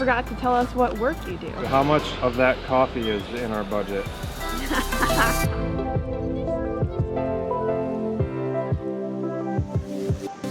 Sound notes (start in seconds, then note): 4.5 laughs